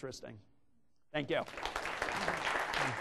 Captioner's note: clapping